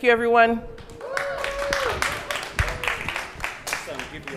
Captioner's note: applause, cheering